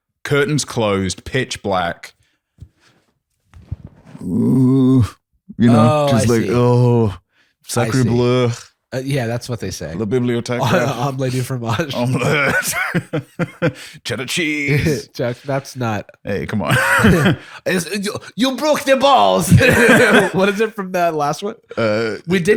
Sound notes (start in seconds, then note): 4.0 groans; 13.7 laughs; 17.4 bad French accent